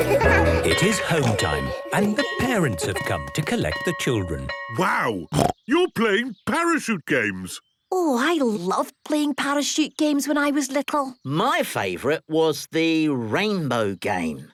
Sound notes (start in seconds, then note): 0.0 laughter; 5.3 snorting